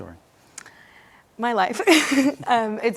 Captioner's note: laughs